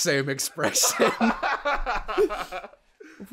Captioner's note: laughter